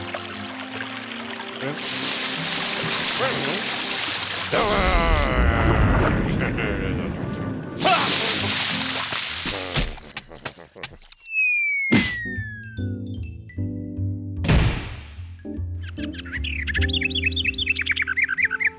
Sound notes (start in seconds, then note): 14.5 door slams; 15.8 bird twittering